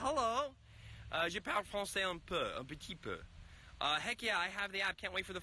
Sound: speaking foreign language

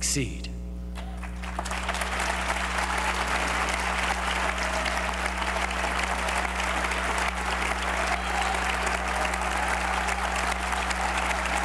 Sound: cheers & applause

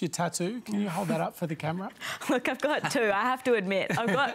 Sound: chuckles

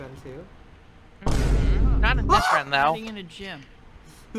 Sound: boom

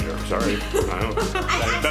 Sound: laughing

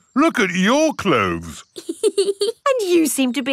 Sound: laughs

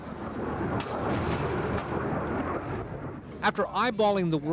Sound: metal rumbling

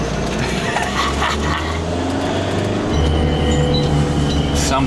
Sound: laughing loudly

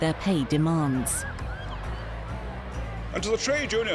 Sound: sirens wailing

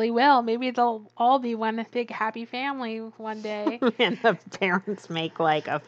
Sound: laughs

